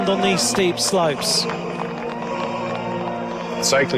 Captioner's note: crowd applauding